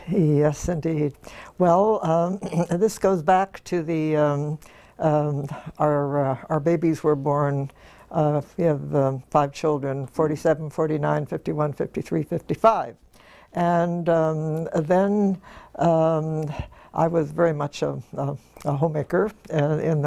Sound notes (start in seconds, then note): 2.3 cough